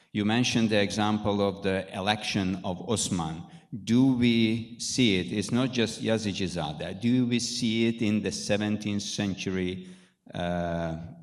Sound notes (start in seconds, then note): 5.8 speaking in foreign language